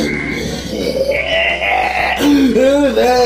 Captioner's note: intimidating laugh